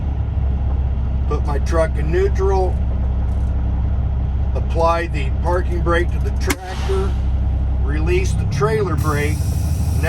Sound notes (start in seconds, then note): 6.4 air releases